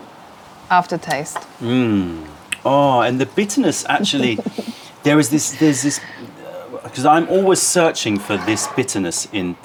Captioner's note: sips tea